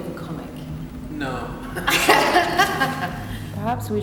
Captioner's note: laughs